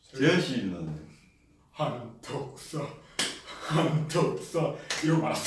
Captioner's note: clap!